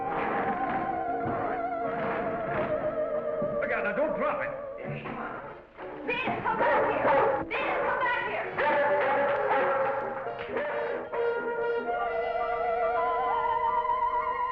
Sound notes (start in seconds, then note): 10.2 Venus barking; 11.9 eerie music